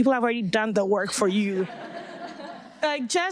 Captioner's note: audience laughing